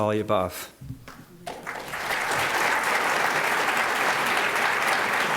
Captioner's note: applause